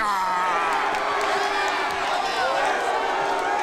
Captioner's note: crowd cheers